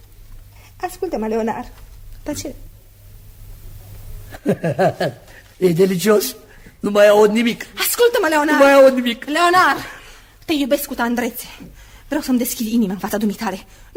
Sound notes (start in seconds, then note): 4.3 laughs